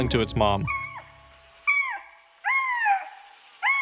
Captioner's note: meowing